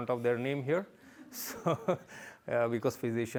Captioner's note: laughter